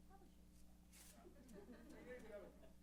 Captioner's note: laughs